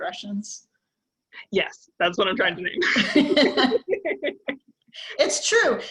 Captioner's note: both laugh